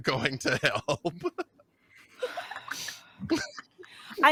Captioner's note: laughing